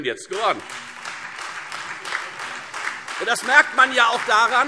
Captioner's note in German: Beifall Freie Demokraten